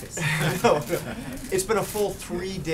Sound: laughs

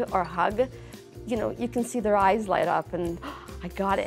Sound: gasps

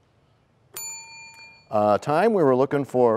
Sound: bell rings, time expires

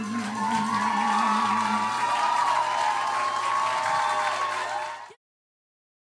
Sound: applause

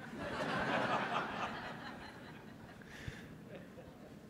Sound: audience laughing

